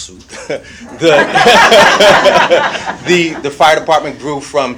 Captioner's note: audience laughs